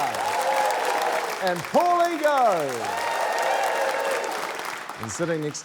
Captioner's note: cheering, applause